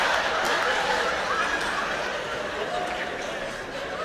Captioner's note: laughter